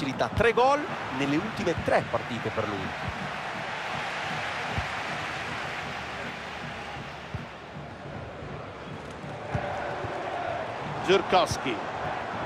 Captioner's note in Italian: Applauso